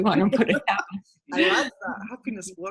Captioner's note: laughing